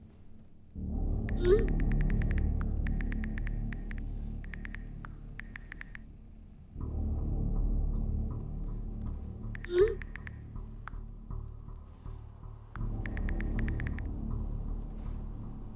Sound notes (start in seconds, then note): 1.2 tense ominous music continues; 9.9 buttons clacking; 9.9 message whooshing